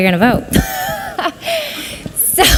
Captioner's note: laughs